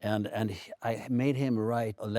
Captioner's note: Stellan speaks Swedish